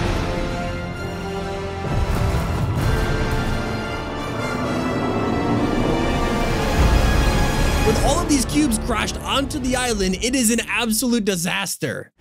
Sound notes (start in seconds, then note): 2.1 loud booming